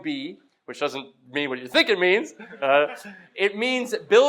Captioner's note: laugh